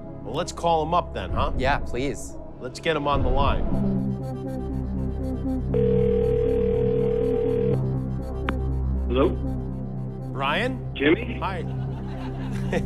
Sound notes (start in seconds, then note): 5.7 line ringing; 11.4 chuckles